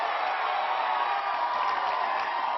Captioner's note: applause